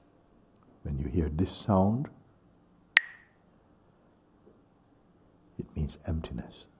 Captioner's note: Mooji clacks the sticks